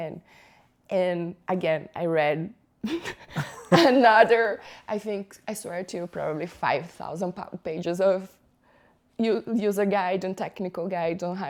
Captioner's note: laughter